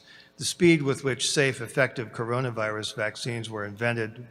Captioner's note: none